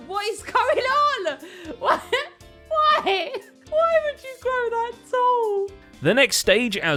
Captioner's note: laughs